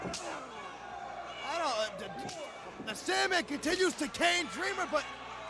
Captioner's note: crowd chatter